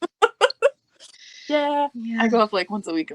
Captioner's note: laughing